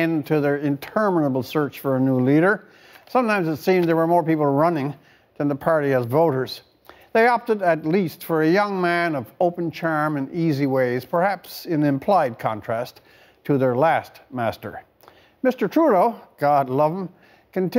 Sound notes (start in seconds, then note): none